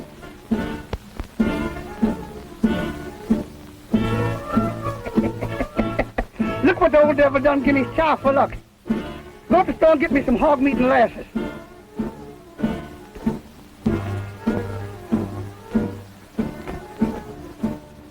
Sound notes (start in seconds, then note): 0.3 playful upbeat music; 4.0 laughs